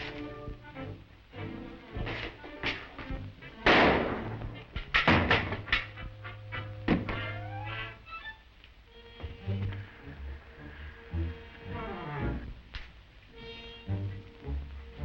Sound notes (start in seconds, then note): 3.7 gun roars; 9.0 tense music